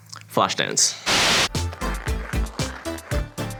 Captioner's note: white noise; cool music